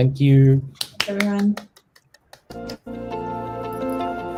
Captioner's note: applauds; gentle music